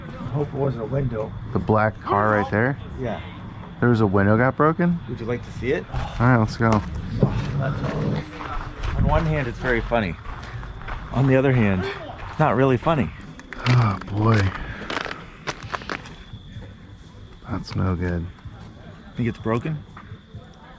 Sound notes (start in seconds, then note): 7.2 walking